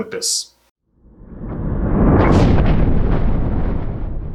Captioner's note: thunder crashing